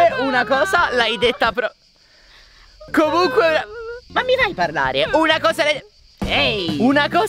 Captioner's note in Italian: piange